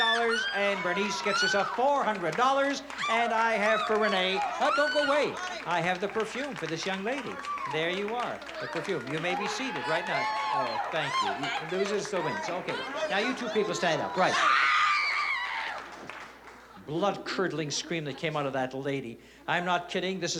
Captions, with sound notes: And Bernice gets $400. And I have for Renee-- don't go away. I have the perfume for this young lady. There you are, the perfume. You may be seated right now. Oh, thank you. Those are still wins. OK. Now you two people stand up. Right. [SCREAM] Blood curdling scream that came out of that lady. I'm not kidding. This is for real.